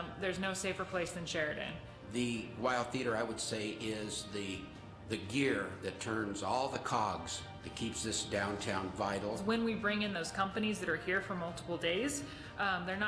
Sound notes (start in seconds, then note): none